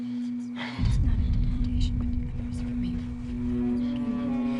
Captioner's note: Rebecca praying softly